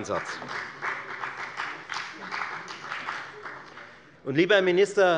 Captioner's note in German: Beifall bei der FDP